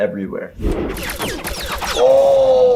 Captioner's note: fire shots